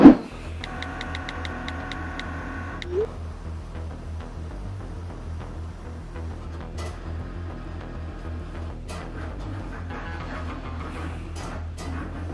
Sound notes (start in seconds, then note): 0.6 keyboard clicking; 5.4 suspenseful music